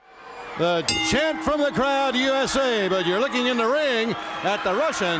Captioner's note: bell ringing